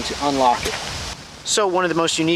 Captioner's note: wind whirring